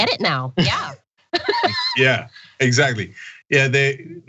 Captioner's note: laugh